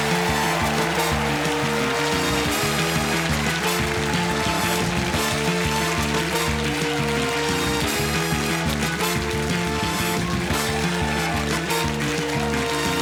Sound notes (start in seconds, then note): 1.8 audience applauding; 4.8 dramatic music